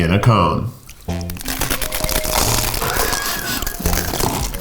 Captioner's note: cones crunching